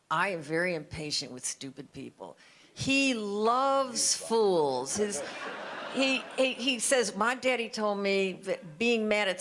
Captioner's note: audience laughter